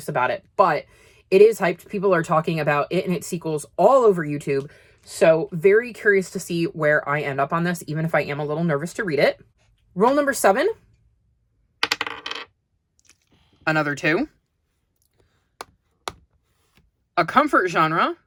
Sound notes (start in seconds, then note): 11.8 sound of dye landing on the desk; 15.5 sound of tapping as the kitty moves